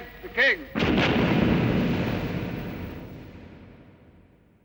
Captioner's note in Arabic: صوت المدافع